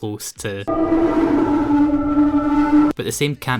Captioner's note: heavy distortion